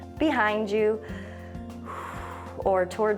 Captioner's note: exhales